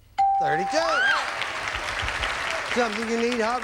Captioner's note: audience applauding